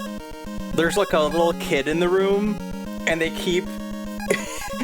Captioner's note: laughs